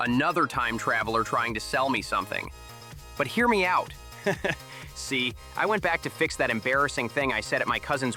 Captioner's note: laughs